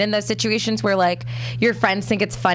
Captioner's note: none